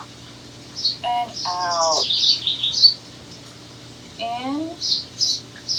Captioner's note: bird chirps; bird chirps